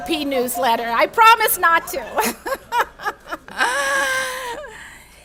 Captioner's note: laughs